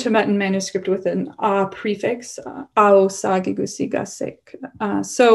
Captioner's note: non-english